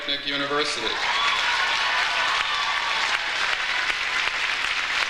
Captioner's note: audience cheers